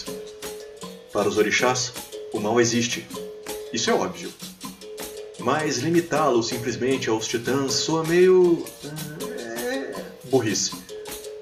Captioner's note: groans thinking in a better word